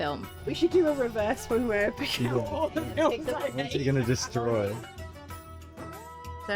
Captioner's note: laughs